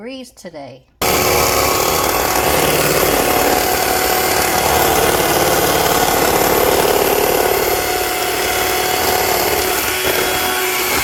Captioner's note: mixer noise